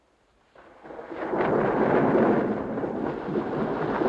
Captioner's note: thunder rumbling